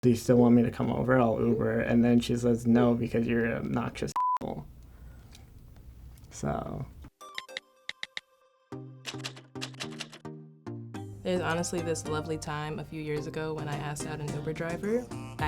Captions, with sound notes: So. (electronic music) (texting sounds) - There's honestly this lovely time a few years ago when I asked out an Uber driver.